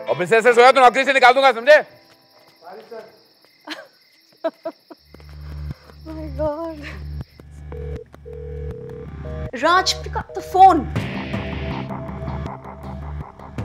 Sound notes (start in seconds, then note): 7.6 phone ringing